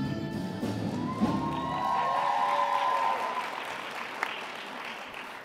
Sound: upbeat jazzy music; cheering, applause

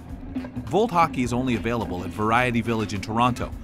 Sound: voiceover

